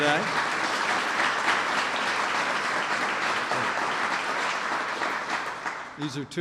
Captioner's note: applause